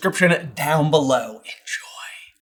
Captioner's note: whisper